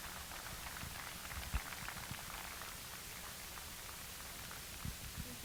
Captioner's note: applause